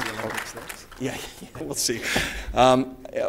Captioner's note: applause